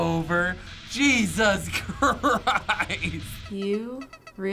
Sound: laughing

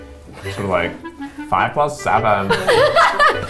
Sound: funny voice; laughing

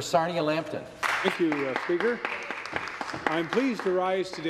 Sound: applause

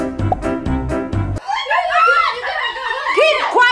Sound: shouting

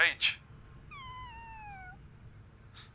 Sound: cat's meow

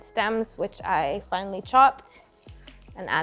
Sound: stems sizzling

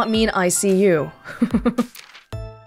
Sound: chuckles

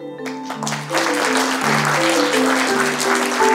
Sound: applause

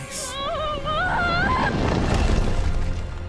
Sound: Keyleth screaming

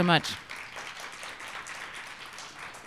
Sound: applause

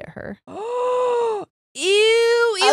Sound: gasps

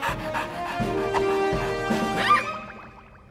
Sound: squealing

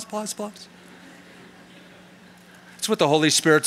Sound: chuckling

